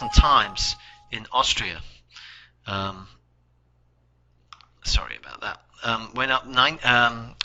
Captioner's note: the computer chimes